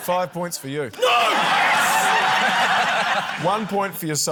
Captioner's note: laughter